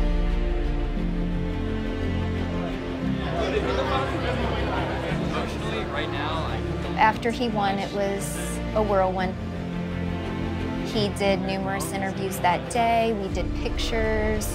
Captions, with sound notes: (chattering) After he won, it was a whirlwind. He did numerous interviews that day, he did pictures.